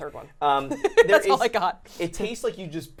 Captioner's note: laughing